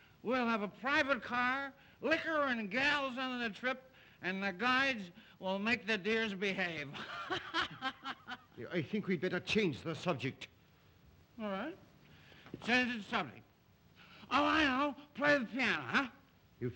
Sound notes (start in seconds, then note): 6.9 laughs; 13.3 slurring words